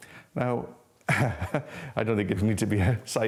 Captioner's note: laughs